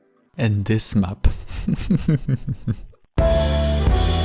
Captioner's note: muffled evil snicker